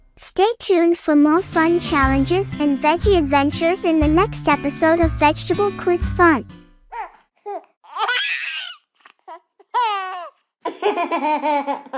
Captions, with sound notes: Stay tuned for more fun challenges and veggie adventures in the next episode of vegetable quiz fun. giggles (baby giggles) (laughing)